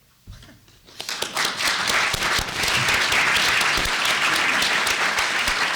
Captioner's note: applause